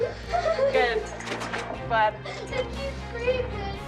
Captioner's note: sobbing